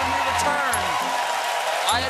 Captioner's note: cheers and applause